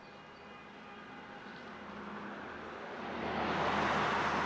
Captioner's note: car whooshes past